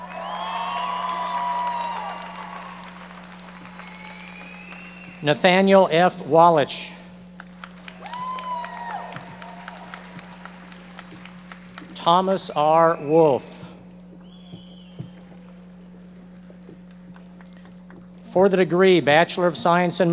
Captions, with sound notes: (audience members cheering and applauding) Nathaniel F. Wallisch. (audience members applauding) Thomas R. Wolf. For the degree Bachelor of Science